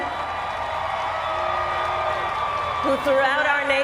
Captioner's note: cheers